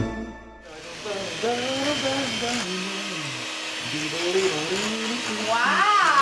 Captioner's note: humming